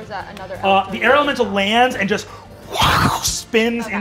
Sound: imitates whooshing

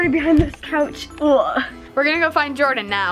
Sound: groans

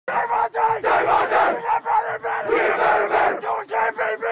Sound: football team chanting

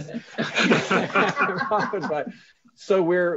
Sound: both laughs

